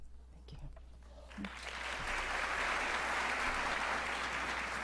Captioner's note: audience applauding